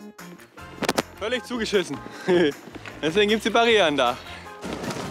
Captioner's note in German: lacht